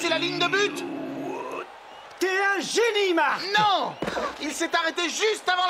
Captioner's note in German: beifall